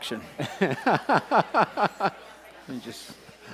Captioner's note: laughing